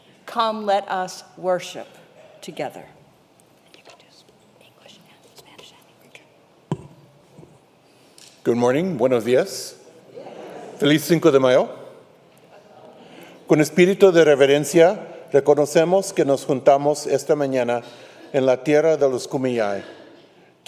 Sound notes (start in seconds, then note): 4.1 couple at pulpit whispering; 13.9 speaker talks in foreign language